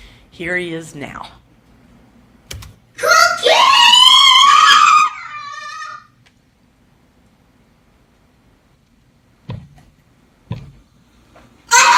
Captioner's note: screaming